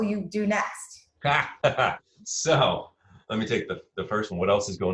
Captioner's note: chuckles